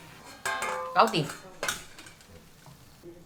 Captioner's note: Cantonese